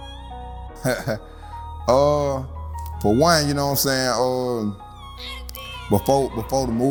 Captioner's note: laughs